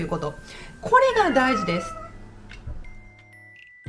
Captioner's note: meow of a cat